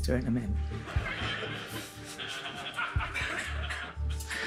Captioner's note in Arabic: يضحك المراسلون